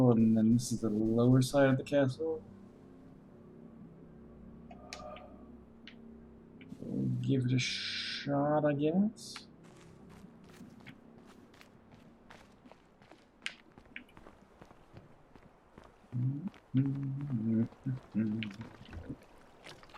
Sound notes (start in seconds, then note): 16.1 humming